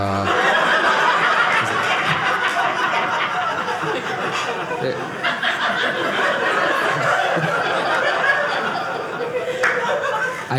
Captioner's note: audience laughing